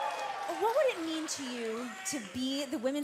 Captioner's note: cheers & applause